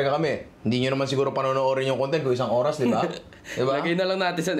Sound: chuckles

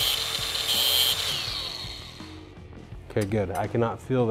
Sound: mechanical whirring

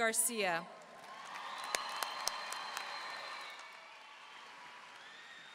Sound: audience cheering and applauding

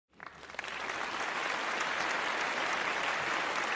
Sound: applause

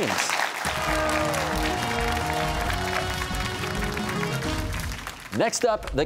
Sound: cheers and applause

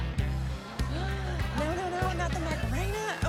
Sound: gasps

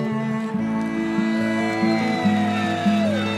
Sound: cheering

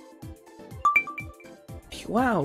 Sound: ding

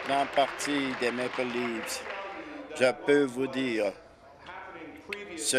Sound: applause

